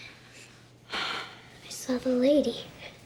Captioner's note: sighs